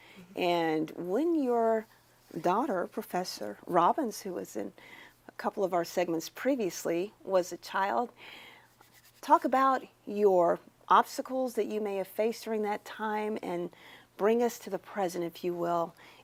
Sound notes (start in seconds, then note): none